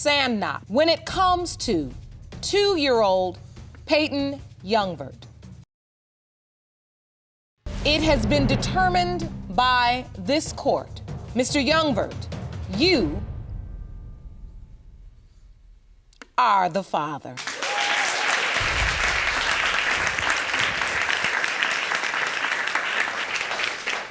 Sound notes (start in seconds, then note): 15.9 audience cheering and applauding